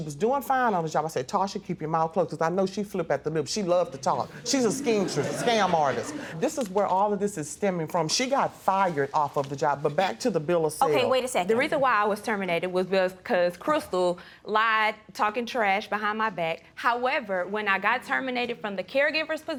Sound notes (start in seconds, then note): 4.4 audience laughs